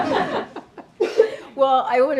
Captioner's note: laughter